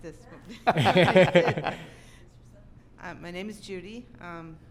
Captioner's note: laughing